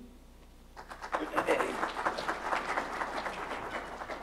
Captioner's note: applause